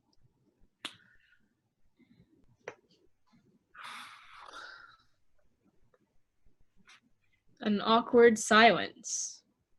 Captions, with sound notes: (woman exhales deeply) - An awkward silence.